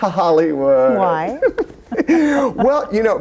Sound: both laughing

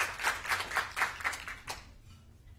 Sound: applause

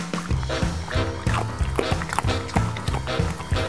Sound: drums rhythmically beating; Rufus chewing

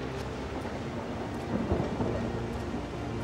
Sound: thunder rumbling

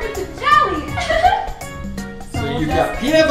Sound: Mickey chuckles; voiceover

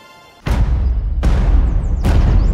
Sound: slam

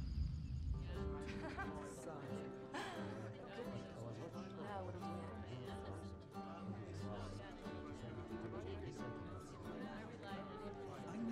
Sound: indistinct conversations

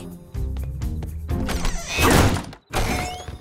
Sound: door shutting

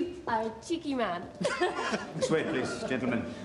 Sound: both laugh

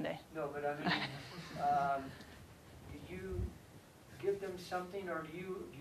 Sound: laugh

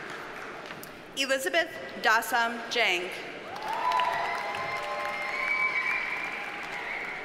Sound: audience cheers and applauds

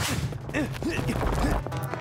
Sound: moaning

